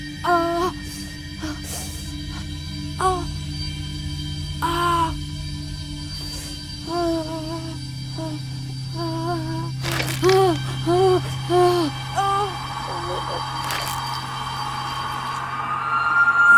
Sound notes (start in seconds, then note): 0.3 woman groaning; 9.0 woman gasping; 9.8 bones cracking; 12.1 intense music